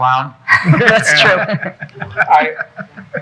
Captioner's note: people laughing